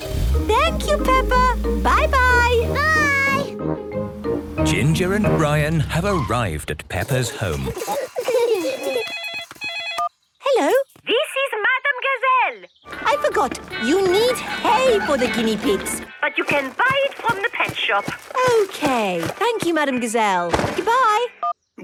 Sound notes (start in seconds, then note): 7.4 giggling; 8.7 phone ringing